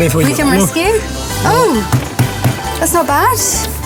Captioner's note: bangs